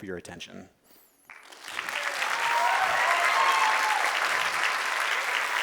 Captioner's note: crowd cheering